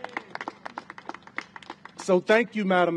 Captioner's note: applause